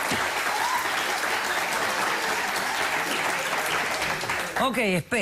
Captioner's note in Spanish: aplausos